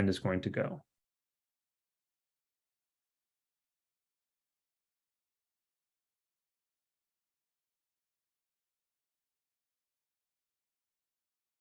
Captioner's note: approximately 15 seconds of silence